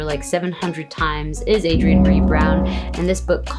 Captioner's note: gong rings